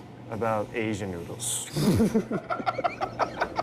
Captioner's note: all laughing